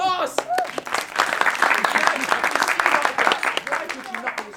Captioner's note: applause